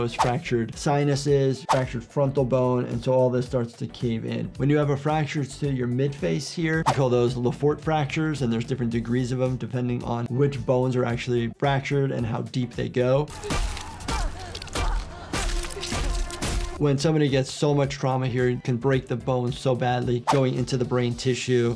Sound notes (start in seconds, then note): 13.3 smashing sounds